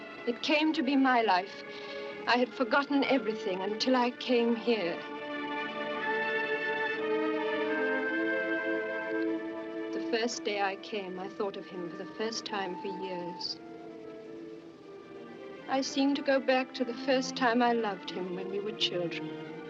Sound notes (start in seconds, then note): none